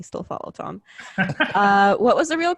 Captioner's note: laughing